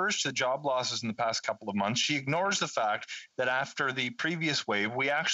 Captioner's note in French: voix de l'interprète